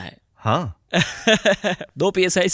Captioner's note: laughs